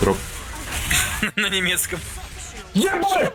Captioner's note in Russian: смех